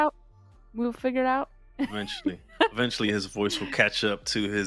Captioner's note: laughter